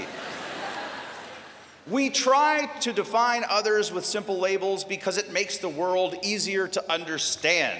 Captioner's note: laughter